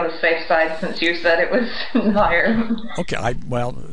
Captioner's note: laughs